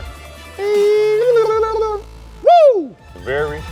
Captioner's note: speaking gibberish